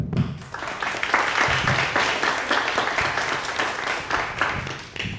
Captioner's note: audience applauding